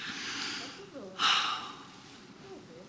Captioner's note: sighs